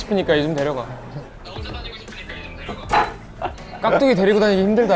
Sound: muted laughter

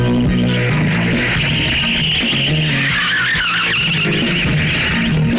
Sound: tires squealing

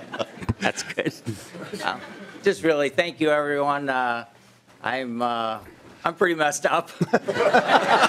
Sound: laughing

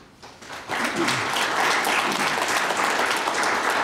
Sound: applauding

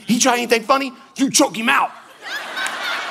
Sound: congregation laughing

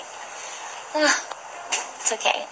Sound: background ocean sounds; sighs

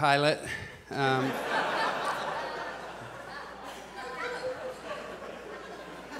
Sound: audience laughs

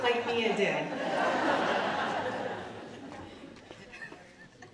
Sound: audience laughing

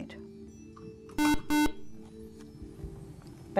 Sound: buzz

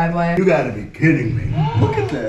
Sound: mom gasps

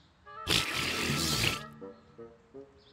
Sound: blows raspberry

